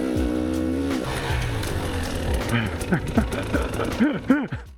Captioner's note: laughing